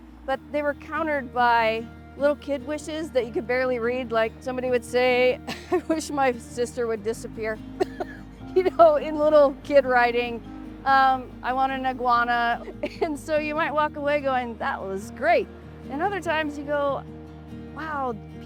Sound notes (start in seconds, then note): 7.8 chuckles